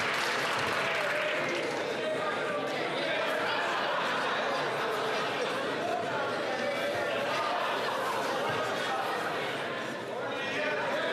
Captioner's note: some Applause